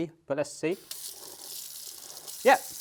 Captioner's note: water running